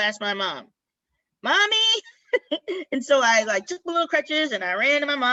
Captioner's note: laughter